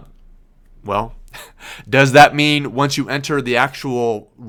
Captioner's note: laughs